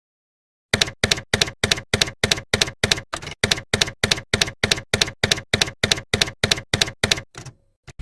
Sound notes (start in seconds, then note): 0.8 typewriter keys clacking